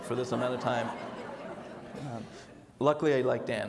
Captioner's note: audience laughs